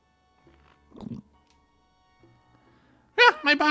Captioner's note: gulp